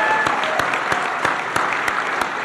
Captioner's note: applause